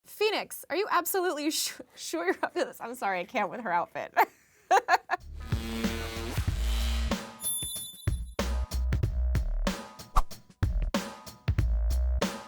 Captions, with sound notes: - Phoenix! Are you absolutely sure you're up to this? I'm sorry. I can't with her outfit. (laughs) (upbeat music)